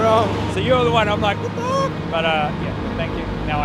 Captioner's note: drift noises